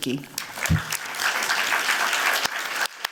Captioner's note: applause